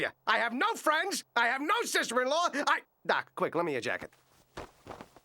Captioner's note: none